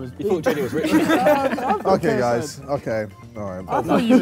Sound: Sidemen laugh

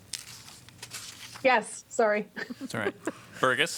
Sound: laughter

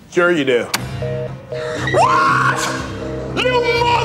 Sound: phone beeping

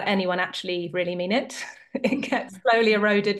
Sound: chuckles

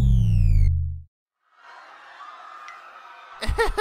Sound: distant panicked screaming

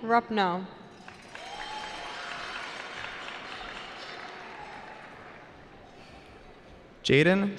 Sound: cheering

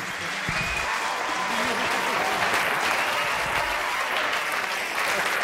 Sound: audience applauding

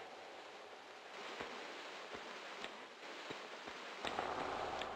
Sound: none

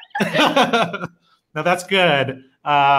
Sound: laughs

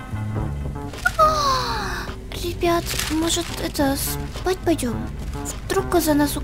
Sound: yawn

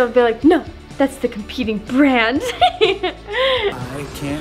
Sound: laughs

